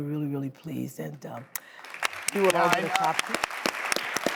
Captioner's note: applause